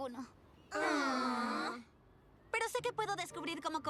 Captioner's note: groans